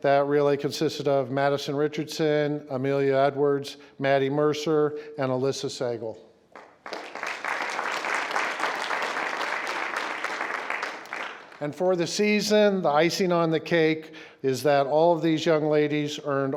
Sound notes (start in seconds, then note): 6.5 crowd clapping